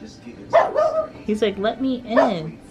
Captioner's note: dog barks